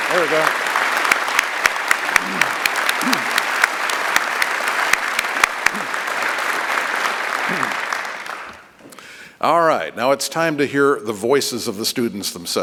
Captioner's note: applause